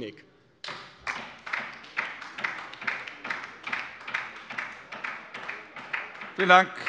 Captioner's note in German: Beifall bei der LINKEN